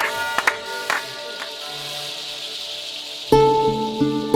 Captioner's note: Aplausos